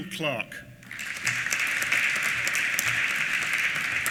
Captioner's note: applause